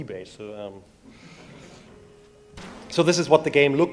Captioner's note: audience laughs